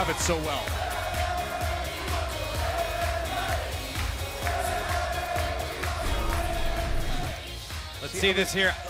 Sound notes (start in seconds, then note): 2.9 fans chanting